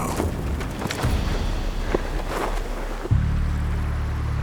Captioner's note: footsteps